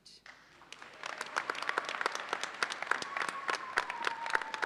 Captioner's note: audience applauds